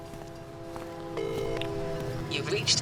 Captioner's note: female operator voice